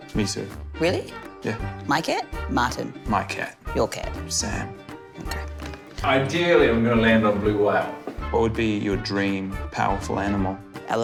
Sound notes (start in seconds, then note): none